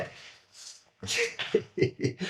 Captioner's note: laughing; laughs